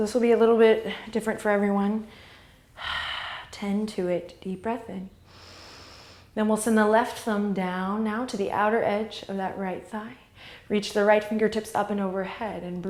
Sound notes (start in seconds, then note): 2.1 exhale; 5.3 inhale